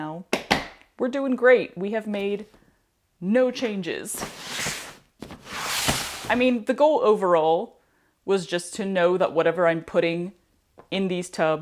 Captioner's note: Swish